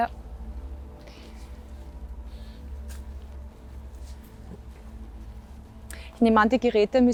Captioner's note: wind in the background